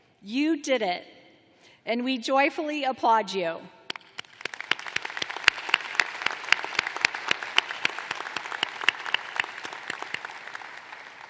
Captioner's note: applause